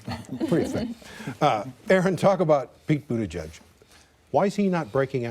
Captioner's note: laughter